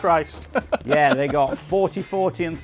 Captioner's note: laughs